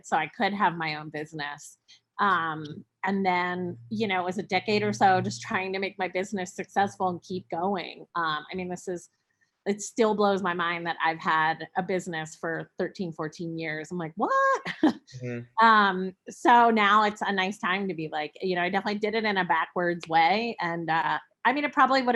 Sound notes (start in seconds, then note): 15.2 chuckles